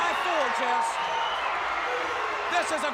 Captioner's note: audience cheers